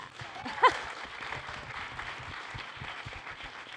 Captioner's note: applause